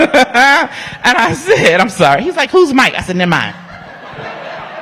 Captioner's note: laughter